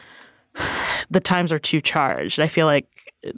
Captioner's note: sighs